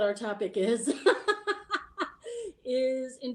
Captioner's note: lady laughing